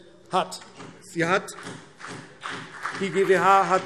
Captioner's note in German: Beifall BÜNDNIS 90/DIE GRÜNEN und vereinzelt CDU